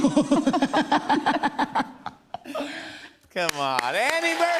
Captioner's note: laughter